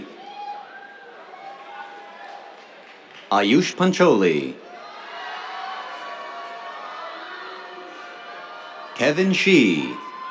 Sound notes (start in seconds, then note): 0.0 cheers, applause; 4.7 cheers